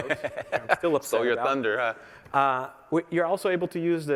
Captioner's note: laughter